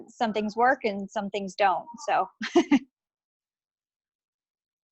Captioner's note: laughing